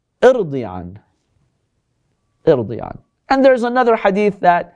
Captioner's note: Arabic